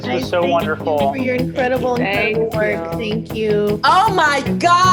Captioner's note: mixed voices